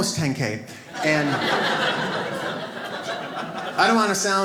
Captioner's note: audience laughs